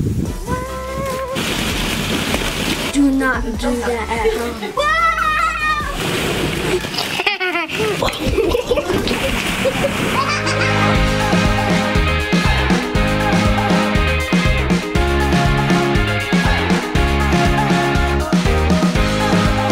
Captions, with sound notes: - Do not do that at home. (child screams) (child laughs) (upbeat music)